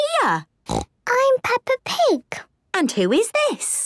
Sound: snorts

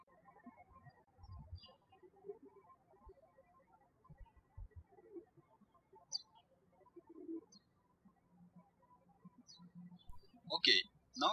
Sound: birds chirping

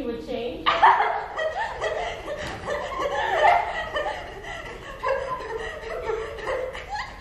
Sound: laughter

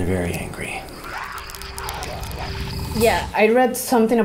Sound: distant animals, cracking wood

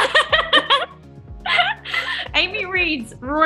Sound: laughter

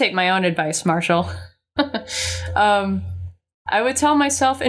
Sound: chuckles

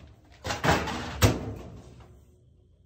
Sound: loud clatter

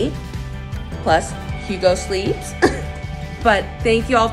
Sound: chuckles softly

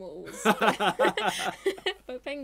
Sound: laughing

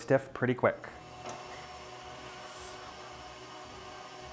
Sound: mixer whirring

